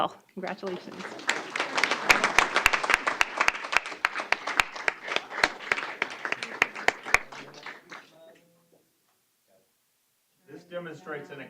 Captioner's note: applause